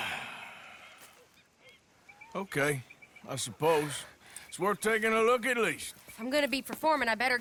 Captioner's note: sighs